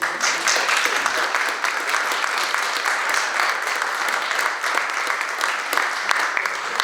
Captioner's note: audience applauds